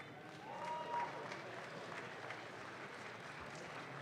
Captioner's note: audience claps